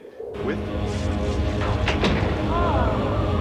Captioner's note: rumbling